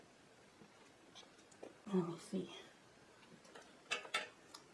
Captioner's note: whispering: Let me see